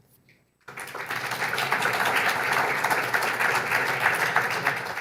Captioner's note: audience applauds